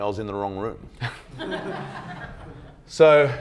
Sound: crowd laughs loudly

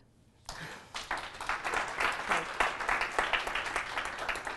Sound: applause

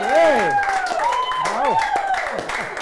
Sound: clapping

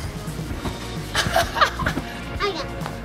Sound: laughing

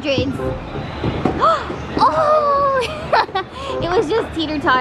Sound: gasping

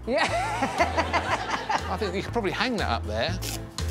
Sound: Desiree and audience laughing

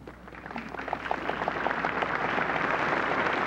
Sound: applause

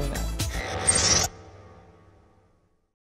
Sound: mechanical sfx

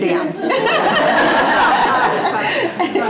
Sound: laughter

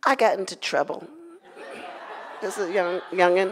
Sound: audience laughs

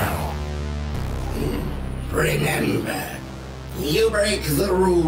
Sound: groans

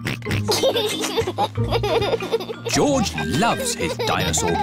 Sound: oinks and laughs

